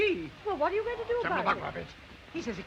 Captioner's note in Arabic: يتحدث بلغة أجنبية